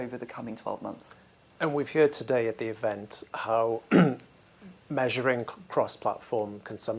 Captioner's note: cough